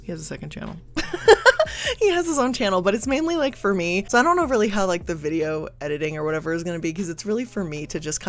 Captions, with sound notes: He has a second channel. (laughs) He has his own channel, but it's mainly like for me, 'cause I don't know really how like the video editing or whatever is gonna be, 'cause it's really for me to just